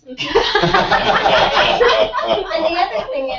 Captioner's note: laugh